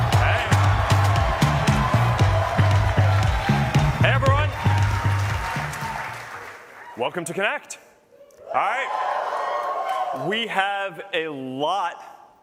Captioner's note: cheers and applause